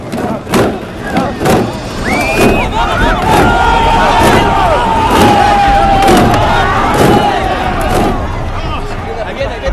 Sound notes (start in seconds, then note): 2.0 screaming; 3.4 shouting